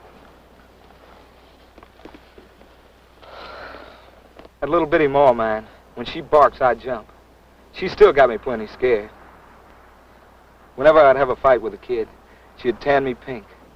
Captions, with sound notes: [exhales] That little bitty ma of mine, when she barks, I jump. She still got me plenty scared. Whenever I'd have a fight with a kid, she'd tan me pink.